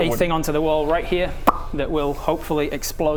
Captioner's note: pop!